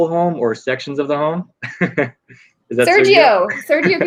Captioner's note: laughing